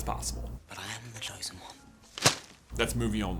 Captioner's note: thwap